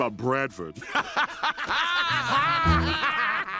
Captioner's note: all laugh